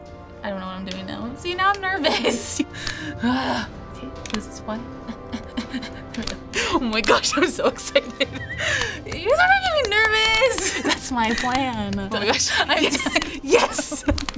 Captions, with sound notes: I don't know what I'm doing now. See, now I'm nervous. (groans) This one? (breathing uneasily) - Oh my gosh! I'm so excited! (laughing) - You're making me nervous! - That's my plan. - Oh my gosh! - Yes! Yes!